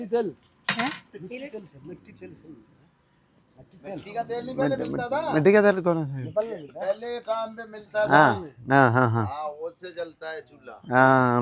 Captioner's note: speaks in Hindi